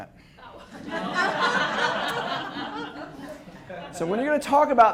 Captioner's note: students laugh